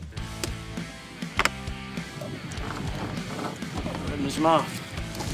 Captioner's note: net thwacks